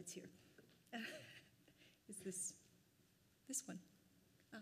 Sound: laughs

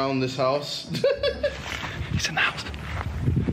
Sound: laughter

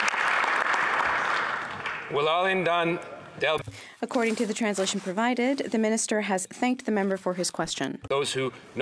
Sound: some Applause

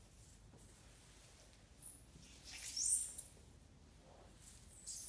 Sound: floor squeaks

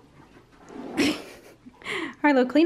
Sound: laughing

